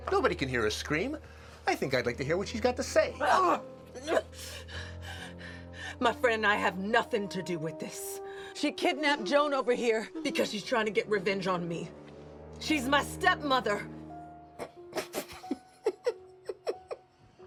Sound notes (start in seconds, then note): 3.1 Eleanor grunts; 5.0 panting; 15.0 Gus laughing